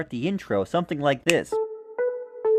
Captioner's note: snap